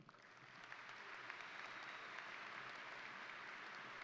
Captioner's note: crowd applauding